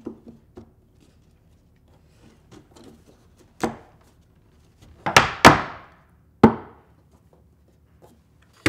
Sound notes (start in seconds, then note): 5.0 hammering nails in place